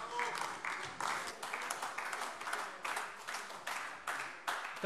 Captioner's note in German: Beifall AfD